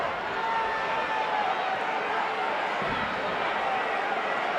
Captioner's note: audience chattering